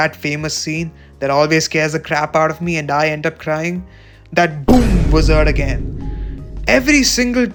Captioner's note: boom